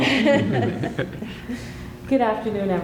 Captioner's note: laughter